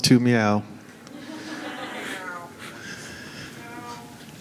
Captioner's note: assorted meowing